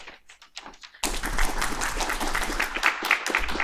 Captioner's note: applause